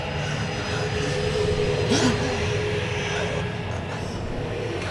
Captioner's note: gasping